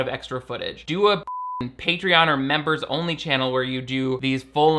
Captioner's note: beep